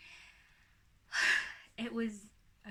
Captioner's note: sighs